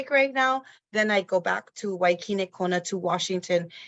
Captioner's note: speaks in foreign language